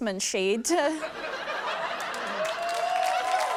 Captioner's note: laughter; applause, cheering